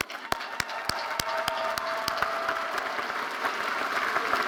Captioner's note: all applauding